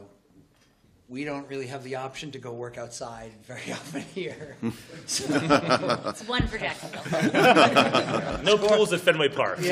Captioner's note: laughter